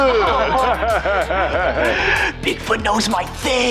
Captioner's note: laughing